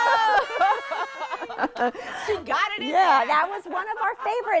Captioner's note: cheering